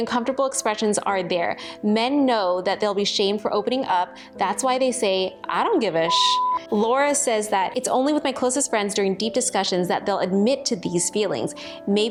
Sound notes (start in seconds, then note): 6.0 beep